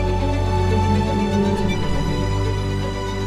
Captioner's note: whale noises